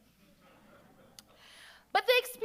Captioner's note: audience chuckles